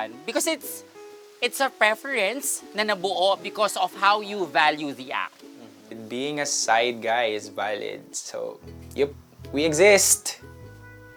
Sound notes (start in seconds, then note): none